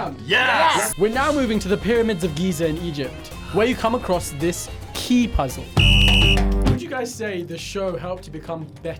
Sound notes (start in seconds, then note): 5.7 whistle blows